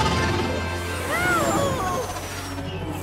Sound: groaning

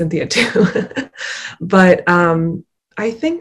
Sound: laughs

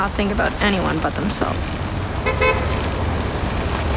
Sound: car Horn Honks

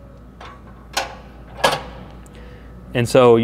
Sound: mental clanging

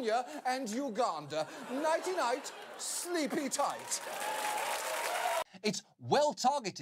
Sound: audience applause, laughter

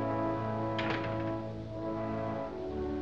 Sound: door Closes

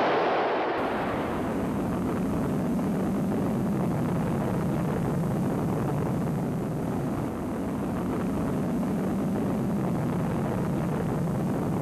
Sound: sound of missile in flight

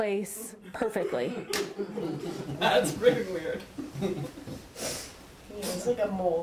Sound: laughter

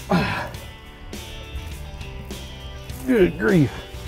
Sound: grunts

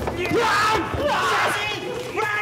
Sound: assassin yelling

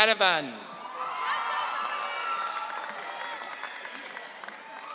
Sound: audience cheering

